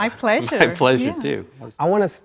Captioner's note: giggles